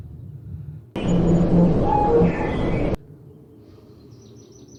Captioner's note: loud glitch interference noise